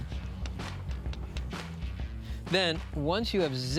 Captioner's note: tapping